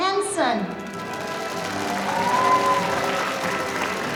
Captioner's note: audience applauding